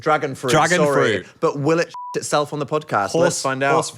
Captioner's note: beep